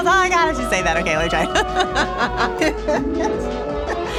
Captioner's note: laughing